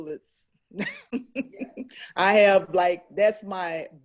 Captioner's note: laughs